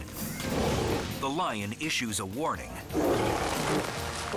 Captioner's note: lion roars